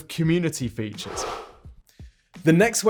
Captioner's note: swoosh